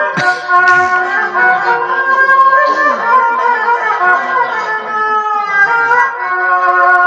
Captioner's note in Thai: เสียงหัวเราะ